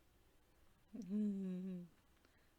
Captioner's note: giggles